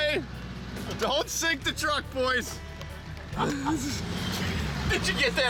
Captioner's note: laughing